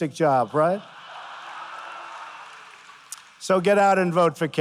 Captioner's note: laughter